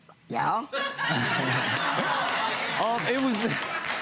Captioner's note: laughter